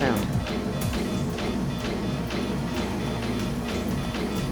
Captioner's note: banging